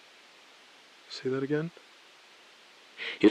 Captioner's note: beat